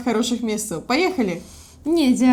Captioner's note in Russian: тяжело дышит